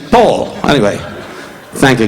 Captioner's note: audience laughing